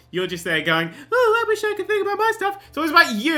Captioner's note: mocking